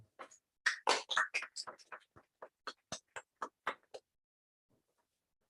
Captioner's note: applause